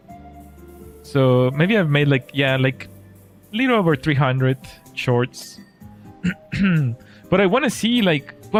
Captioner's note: clears throat